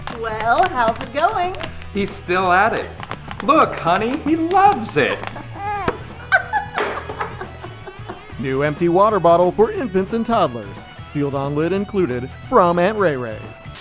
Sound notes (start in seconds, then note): 4.6 mother laughs; 5.2 baby cooing